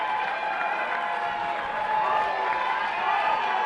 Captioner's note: applause